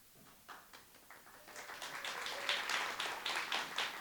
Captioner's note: applause